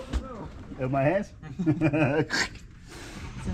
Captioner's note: laughing